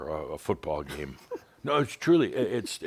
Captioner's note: chuckles